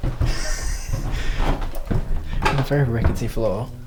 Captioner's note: laughs; floor creaking